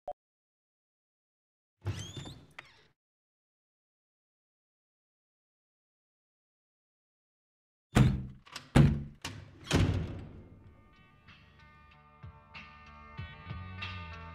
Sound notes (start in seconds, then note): 1.8 door squeaking; 7.9 doors slamming; 11.2 mellow guitar music